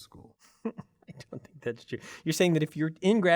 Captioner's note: laugh